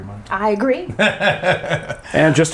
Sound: laughs

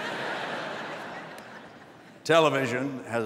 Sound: laughter

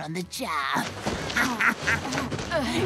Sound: laughing

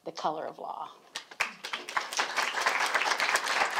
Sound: applause

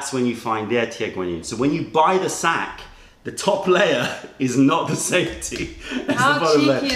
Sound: laughter

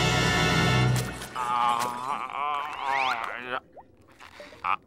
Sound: groaning

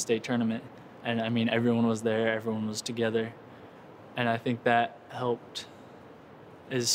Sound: none

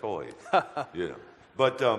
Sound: audience laughter

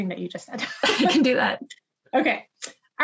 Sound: laughs

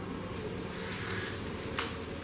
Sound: none

